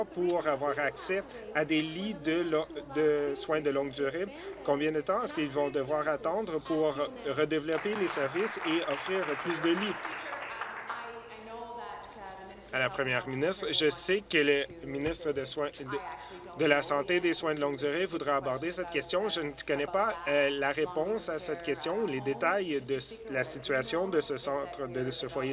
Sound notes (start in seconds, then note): 11.0 applause